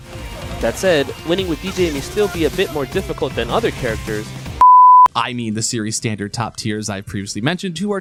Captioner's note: film beep